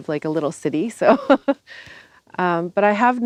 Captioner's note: laughter